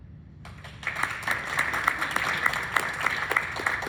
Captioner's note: applause